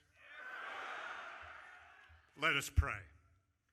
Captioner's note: audience cheering